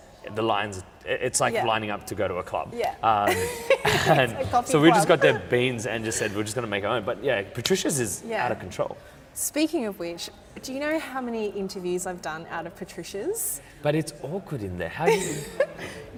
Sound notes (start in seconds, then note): 3.2 laughs; 15.0 laughs